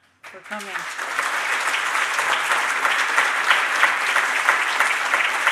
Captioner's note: audience applauding